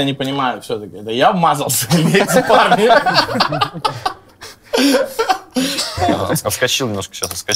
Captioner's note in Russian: смех